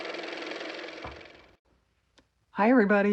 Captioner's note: car motor